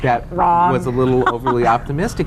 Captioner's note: laughter